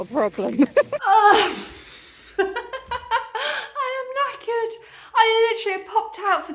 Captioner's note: laughing; sigh